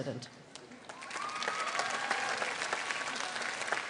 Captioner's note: applause